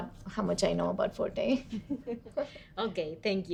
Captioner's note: women laugh